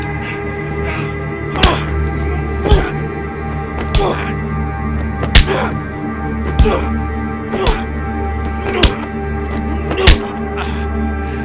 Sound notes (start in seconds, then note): 2.1 grunting; 2.1 smacking